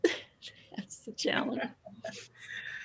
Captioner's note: laughs